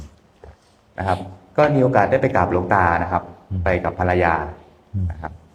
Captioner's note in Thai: เสียงสูดหายใจ